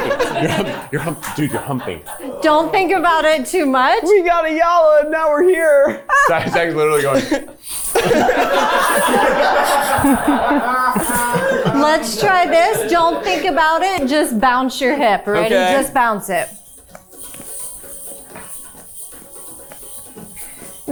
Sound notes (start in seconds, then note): 0.0 crew member chuckling; 5.9 chuckling; 7.9 and crew members laughing; 17.0 hip scarf jingling; 17.0 upbeat music